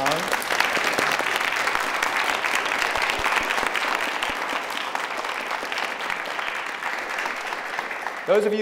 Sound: applause

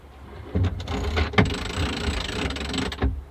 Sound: grinding

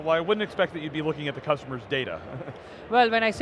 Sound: chuckles

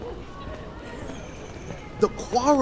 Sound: footsteps

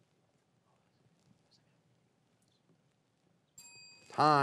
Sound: faintly speaking

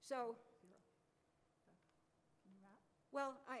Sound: voiceover

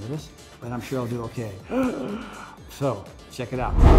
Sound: gasps

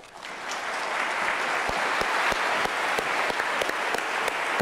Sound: applause

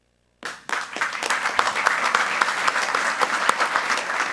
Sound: group applauding

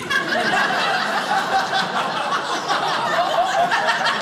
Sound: audience laughing

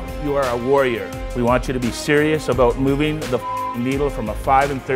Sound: beep

